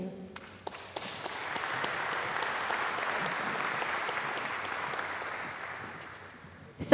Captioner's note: applause